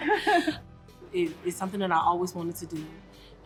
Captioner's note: both laugh